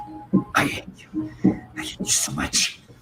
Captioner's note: whispers